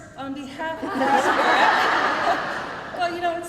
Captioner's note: crowd laughing